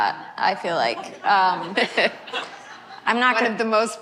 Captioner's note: laughter